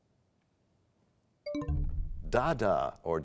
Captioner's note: bell chimes, time expires